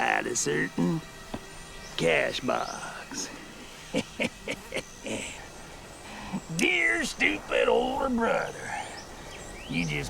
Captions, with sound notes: (chuckles) Dear, stupid, older brother, you just may have made one thing successful